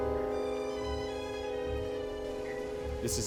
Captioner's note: signal beeping